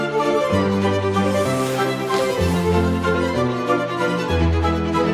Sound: feet shushing

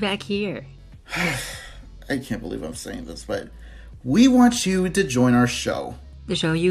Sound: sigh

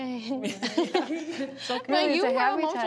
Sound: giggling

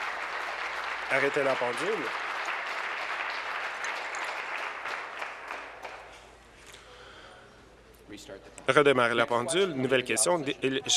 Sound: applause

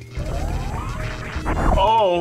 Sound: electricity crackles

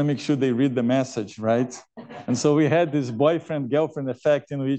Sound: laughter

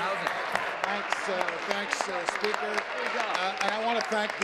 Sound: applause

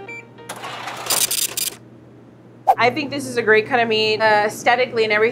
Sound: scale beeps and brrhs

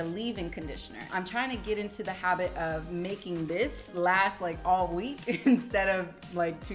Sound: chuckles

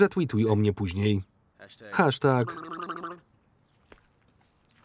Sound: blubbering

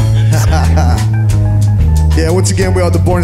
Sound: laughing

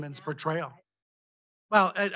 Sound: faintly speaking

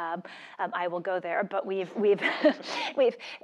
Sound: laugh

